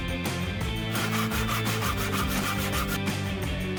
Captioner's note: saw whirring